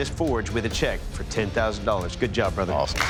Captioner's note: applause